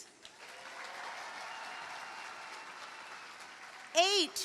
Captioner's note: cheering, applause